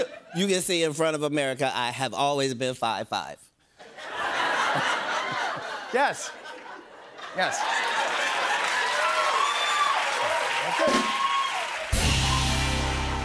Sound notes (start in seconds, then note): 3.8 laughter; 7.3 cheers and applause